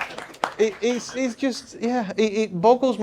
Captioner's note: attendees clapping